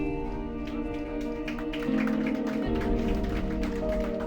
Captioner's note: group applauds; uplifting music continues